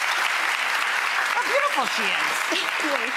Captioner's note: applause